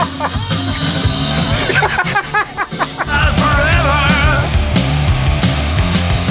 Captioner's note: laughter